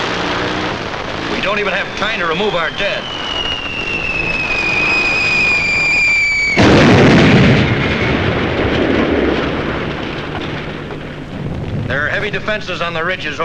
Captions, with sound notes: We don't even have time to remove our dead. (bomb whistling) (explosion booming) There are heavy defenses on the ridges